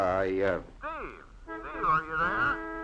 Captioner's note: horn honking